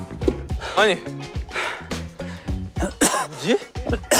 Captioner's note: pant, pant; cough